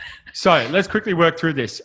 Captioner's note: laughs